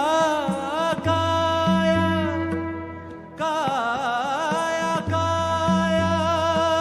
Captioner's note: none